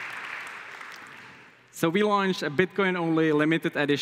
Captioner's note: Applause